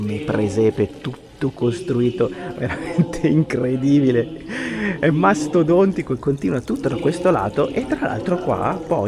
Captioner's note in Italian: risate